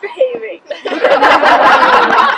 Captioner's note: laughter